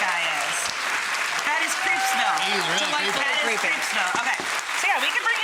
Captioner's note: audience applauding and cheering